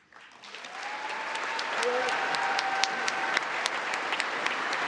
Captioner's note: congress applauding